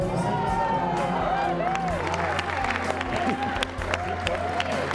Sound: crowd cheers

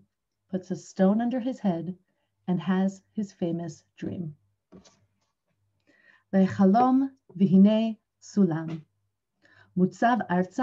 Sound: Hebrew

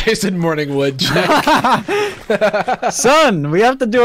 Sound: both laugh

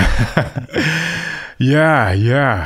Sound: laughing

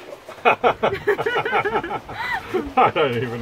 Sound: laughs

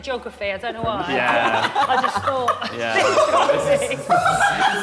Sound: Sidemen laughing

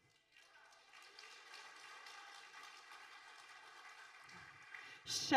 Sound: audience applauding

